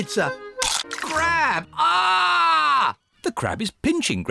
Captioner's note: crunch; screams